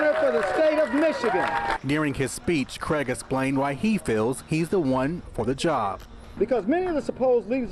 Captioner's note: cheers and applause